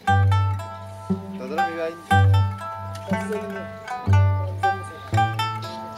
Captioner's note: speaking in foreign language